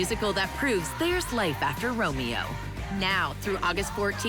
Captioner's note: SFX: crowd cheering; SFX: heartbeat